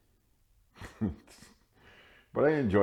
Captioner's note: laughing